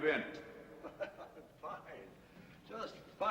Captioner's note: chuckling